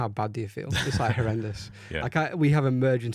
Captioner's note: laughs